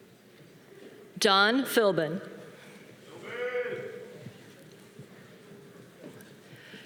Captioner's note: man cheering